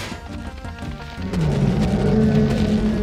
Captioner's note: growling